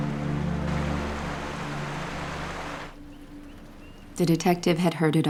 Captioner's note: water rushing